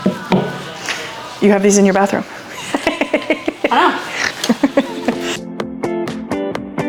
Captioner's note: laughs